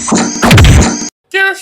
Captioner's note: robot walking; bam